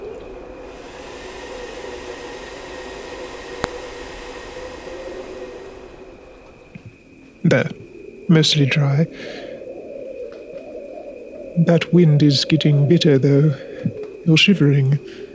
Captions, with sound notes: [Sound of Blowing Air] There. Mostly dry. That wind is getting bitter, though. You're shivering.